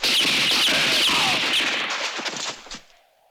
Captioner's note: groaning